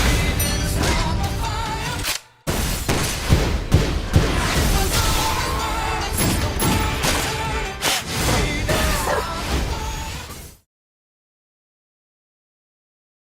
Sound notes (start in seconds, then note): 2.4 gun shots